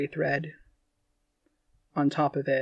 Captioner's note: none